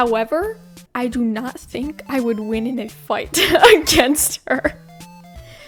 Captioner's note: laughs